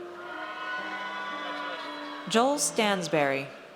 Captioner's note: audience cheers